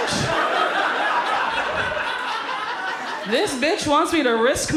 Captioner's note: audience laughs